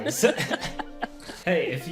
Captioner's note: all laughing